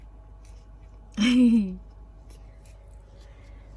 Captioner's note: chuckles